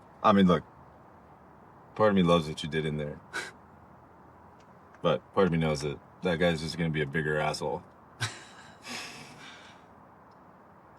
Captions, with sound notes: I mean, look, part of me loves what you did in there. (Dayne chuckling) But part of me knows that that guy's just gonna be a bigger asshole. (both chuckling)